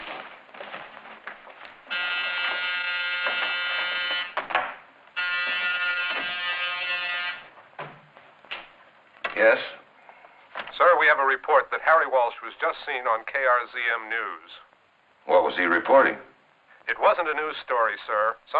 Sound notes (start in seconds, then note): 1.9 buzzer buzzing